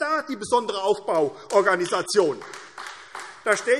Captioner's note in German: Beifall AfD